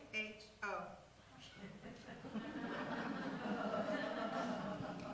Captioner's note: audience laughs